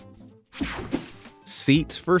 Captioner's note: scene change whirs